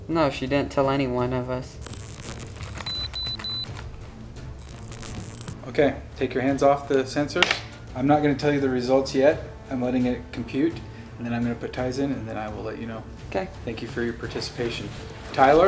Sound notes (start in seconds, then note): 1.8 detector beeps